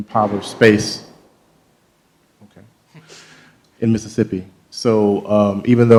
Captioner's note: banging sounds